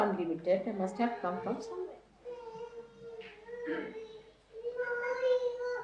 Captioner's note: A baby make word-like noises to which Mother responds: “Ah, who’s there?